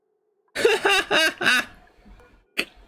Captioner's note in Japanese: 笑い声